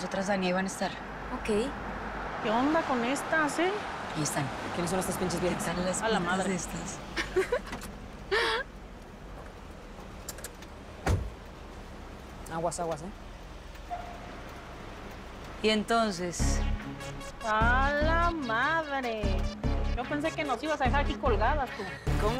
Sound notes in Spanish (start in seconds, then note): 7.1 Daniela ríe